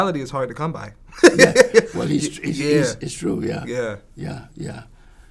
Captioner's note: laughs